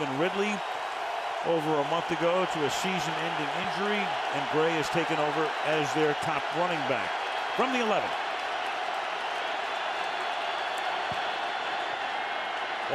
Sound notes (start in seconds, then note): 8.9 cheering